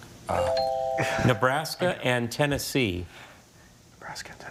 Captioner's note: laughing